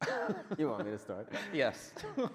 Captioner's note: men laughing